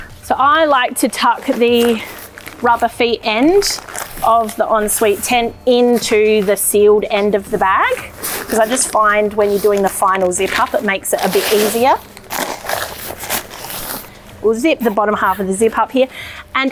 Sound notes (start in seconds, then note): 12.4 tent rustling